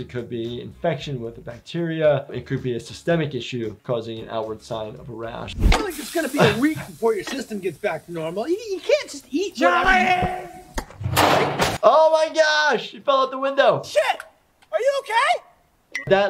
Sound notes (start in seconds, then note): 9.8 ground bangs; 9.8 trash can clatters